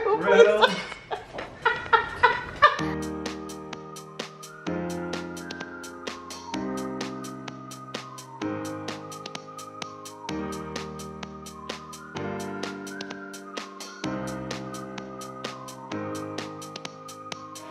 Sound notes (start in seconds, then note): 2.0 laughs; 3.6 upbeat music plays